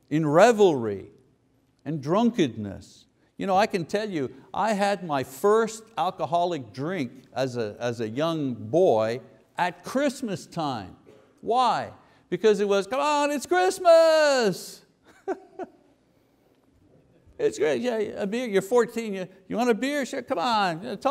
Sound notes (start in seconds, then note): 15.0 chuckles